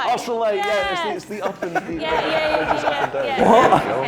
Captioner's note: laughter